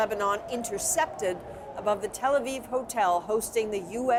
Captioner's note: sirens